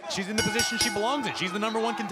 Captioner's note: bell ringing